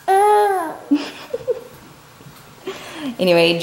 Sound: mumbles

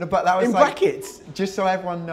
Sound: none

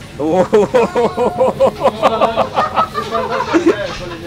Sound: people laughing

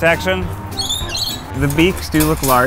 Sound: birds chirping

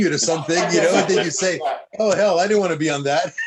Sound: laughter

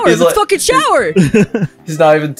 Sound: giggles

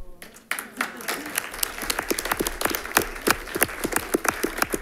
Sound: audience applauding

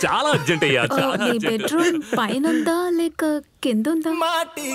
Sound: laughs

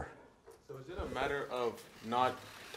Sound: voiceover

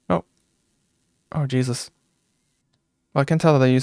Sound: none

